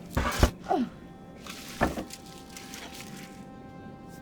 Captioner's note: door thuds; Claire grunts; suspenseful music